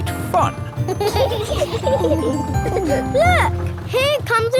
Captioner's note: kids giggling